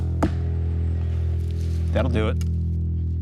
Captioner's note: thumping